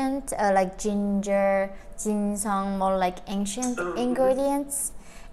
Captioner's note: speaks Korean